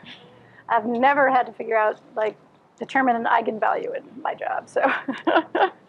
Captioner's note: laughs